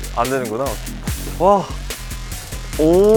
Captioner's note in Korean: 감탄